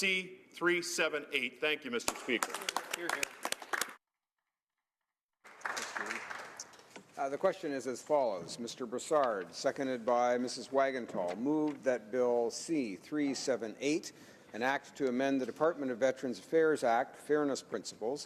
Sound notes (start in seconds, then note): 7.5 some Applause